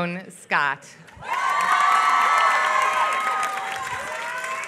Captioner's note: applause